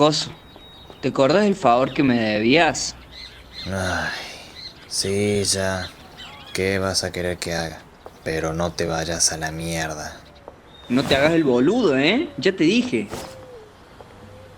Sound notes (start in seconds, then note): 3.7 suspira